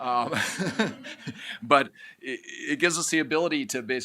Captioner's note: chuckles